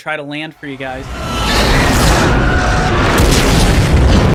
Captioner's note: metal scraping; faint screaming; loud explosion